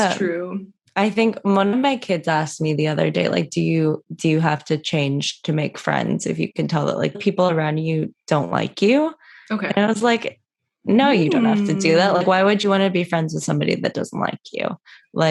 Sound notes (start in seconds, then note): 11.2 mmm